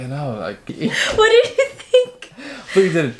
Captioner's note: laughing